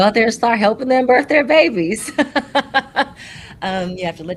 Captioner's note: laughs